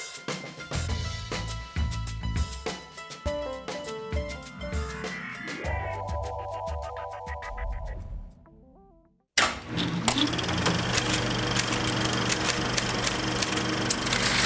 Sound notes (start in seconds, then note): 9.4 projector clicking; 10.9 typing